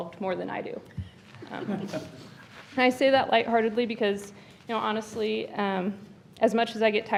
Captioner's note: laughter